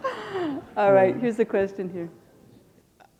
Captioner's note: laughter